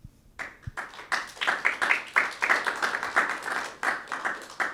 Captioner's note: audience clapping